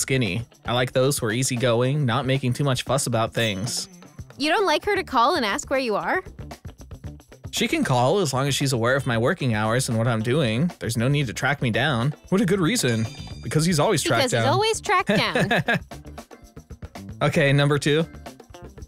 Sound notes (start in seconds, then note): 14.0 laughs